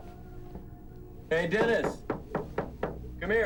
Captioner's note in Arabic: يقرع الباب